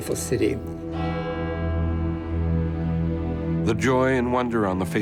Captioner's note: bells chime